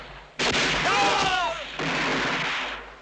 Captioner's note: groans